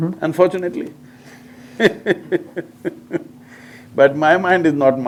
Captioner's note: laughs